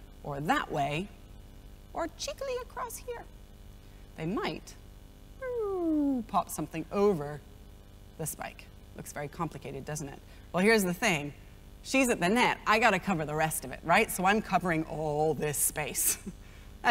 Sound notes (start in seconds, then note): 5.4 vocalizes whirling effect